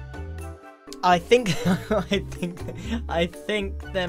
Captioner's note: laughs